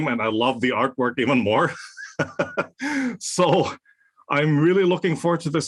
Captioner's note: laugh